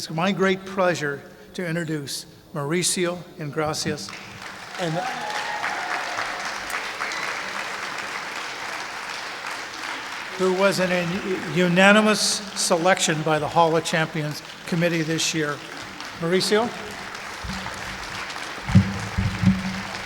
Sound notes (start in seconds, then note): 4.7 clapping; 17.8 clapping